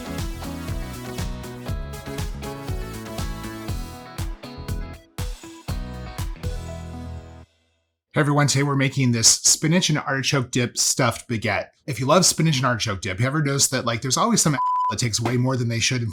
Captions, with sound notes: (upbeat music) - Hey, everyone, today we're making this spinach and artichoke dip stuffed baguette. If you love spinach and artichoke dip, have you ever noticed that like there's always some (beep) that takes way more than they should